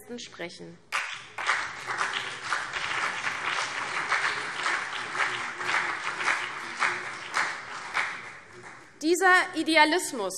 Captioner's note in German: Beifall CDU und BÜNDNIS 90/DIE GRÜNEN